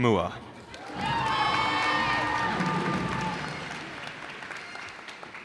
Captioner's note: cheers and applause